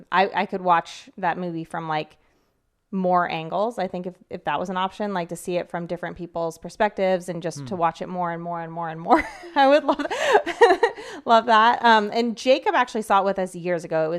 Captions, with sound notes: I could watch that movie from more angles, I think, if that was an option, like to see it from different people's perspectives and just to watch it more and more and more and more. (laughs) I would love that. And Jacob actually saw it with us years ago.